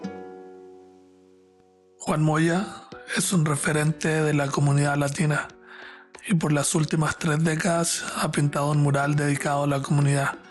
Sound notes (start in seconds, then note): 2.2 calm music; 2.2 narrator speaking Spanish